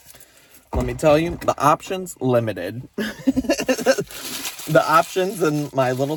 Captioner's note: laughs